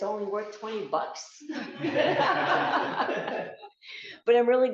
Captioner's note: laughter